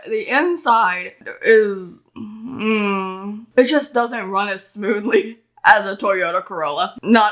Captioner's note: groan